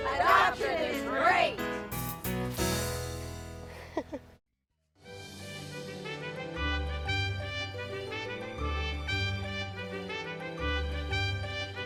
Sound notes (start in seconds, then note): 4.1 laughing; 5.0 orchestral theme music